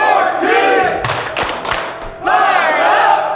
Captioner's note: claps